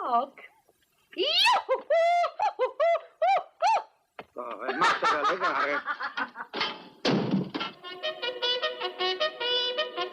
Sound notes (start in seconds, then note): 6.3 Mary laughs; 7.8 reveille plays